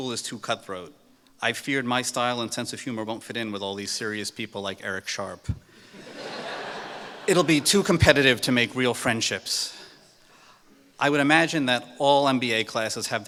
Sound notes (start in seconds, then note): 5.9 laughter